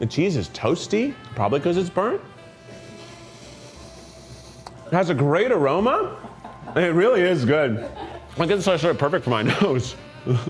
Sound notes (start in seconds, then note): 2.4 sniffs; 9.3 crew member laughs